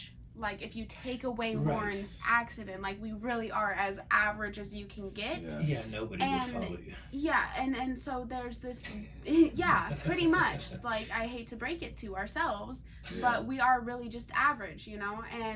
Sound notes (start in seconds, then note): 9.2 laughs